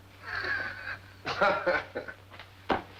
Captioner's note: laughing